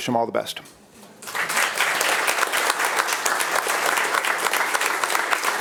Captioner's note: attendees applauding